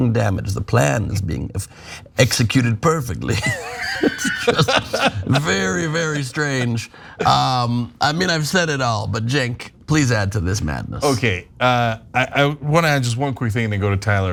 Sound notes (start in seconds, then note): 3.3 laugh